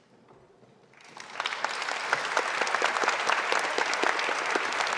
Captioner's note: audience applauding